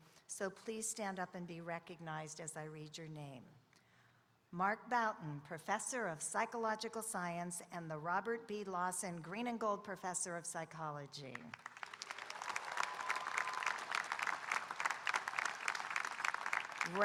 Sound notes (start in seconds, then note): 11.5 audience applauding